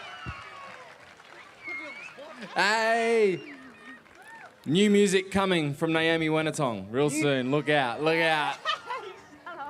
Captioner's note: applause